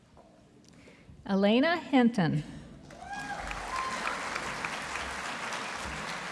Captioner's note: audience applauding